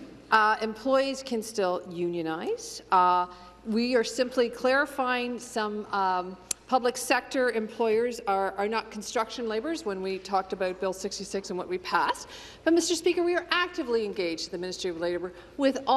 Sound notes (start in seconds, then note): none